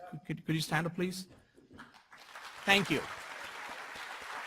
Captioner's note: applause